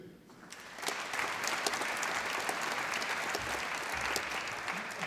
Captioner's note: applause